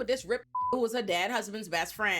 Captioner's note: beep